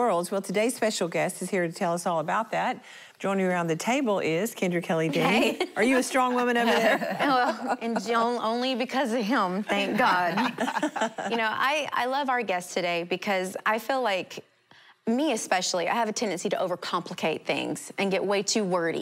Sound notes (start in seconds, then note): 9.7 laughing